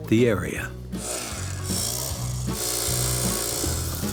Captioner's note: faint buzzing